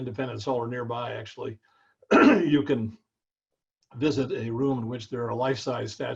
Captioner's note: cough